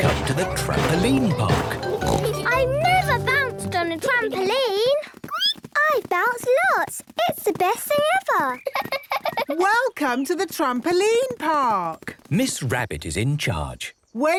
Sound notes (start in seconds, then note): 5.5 squeaks; 8.6 giggles